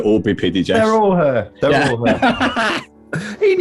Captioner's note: laughter